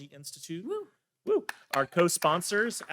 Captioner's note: claps